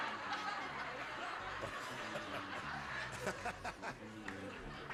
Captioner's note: laughs